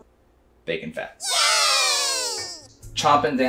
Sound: audience cheering

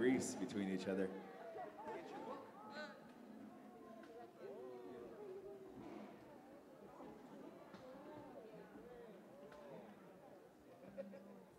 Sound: background chatter continues for next half minute

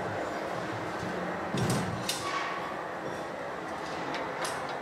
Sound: machinery whirring

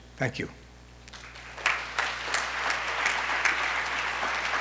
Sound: applause

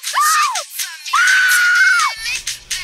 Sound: Velma screams

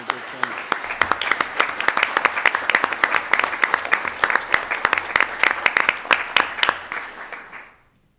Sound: applause

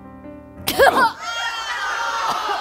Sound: cough

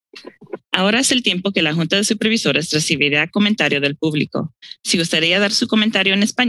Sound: speaks in foreign language

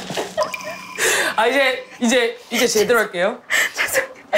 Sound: failed to stop laughing

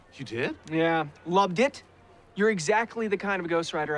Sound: none

